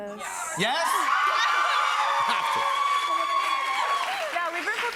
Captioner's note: cheers and applause